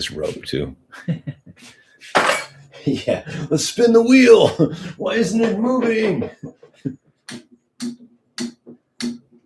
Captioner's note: laughter